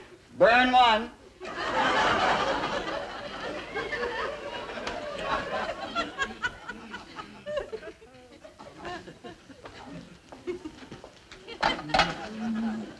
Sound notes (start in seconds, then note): 1.4 audience laughing